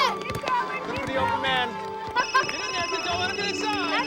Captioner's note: cell phone ringing